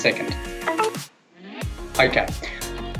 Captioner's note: phone beeping